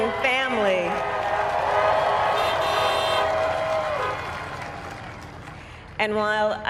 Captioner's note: applaud